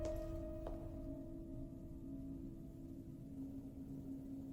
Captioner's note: wind wails